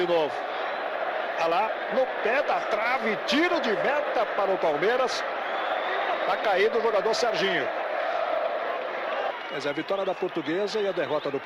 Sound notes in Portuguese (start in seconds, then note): 0.0 aplausos